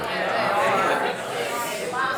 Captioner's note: audience murmuring